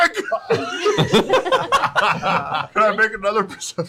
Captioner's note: laughter